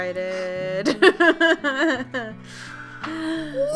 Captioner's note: huegh heh heh huhhuhhuh